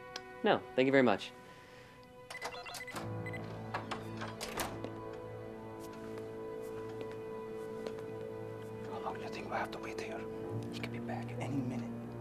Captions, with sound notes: - No, thank you very much. (door opening) - (whispers) How long do you think we'll have to wait here? - He could be back any minute.